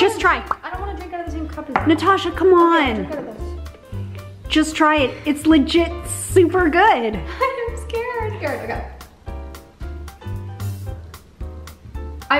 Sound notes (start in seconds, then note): 7.2 laughs; 8.8 upbeat jazz music